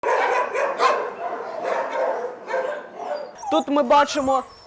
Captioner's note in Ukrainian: гавкіт собак